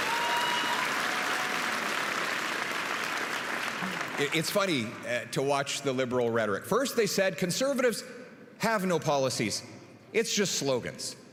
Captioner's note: applause